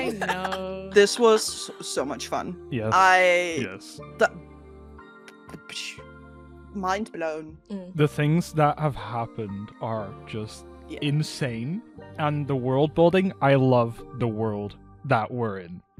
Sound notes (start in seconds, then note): 0.0 laughter; 3.4 incoherent joy